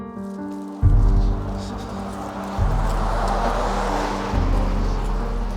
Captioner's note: traffic humming